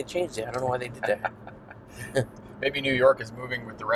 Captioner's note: both laugh